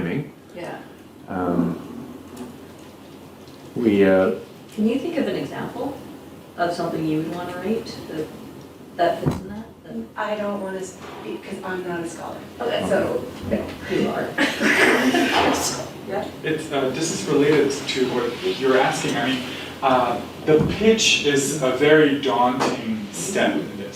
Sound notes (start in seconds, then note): 17.1 laughs